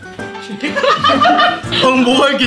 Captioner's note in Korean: 웃음소리